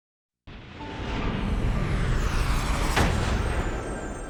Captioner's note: dramatic sound